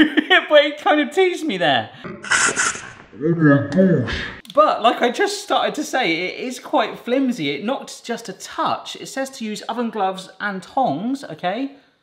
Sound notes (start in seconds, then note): 0.0 laughs; 2.2 steam hissing